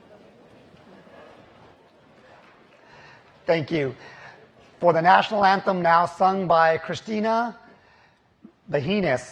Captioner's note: applause